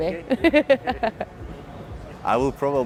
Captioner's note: laughter